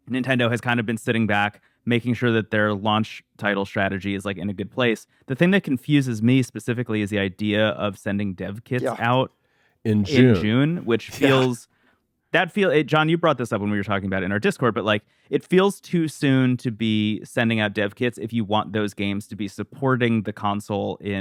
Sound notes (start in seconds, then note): 9.9 laughs